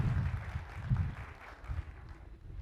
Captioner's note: applause